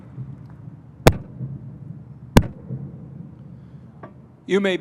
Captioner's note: mace bangs